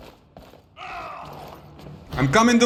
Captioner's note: fighting noises